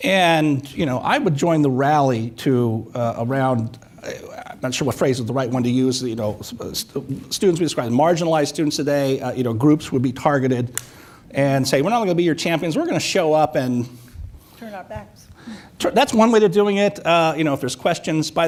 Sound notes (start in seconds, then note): none